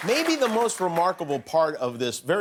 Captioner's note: cheers and applause